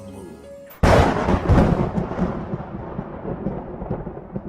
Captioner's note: krac-crooo-ooom